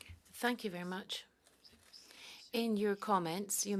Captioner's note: speaking French